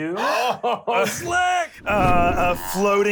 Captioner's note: laughs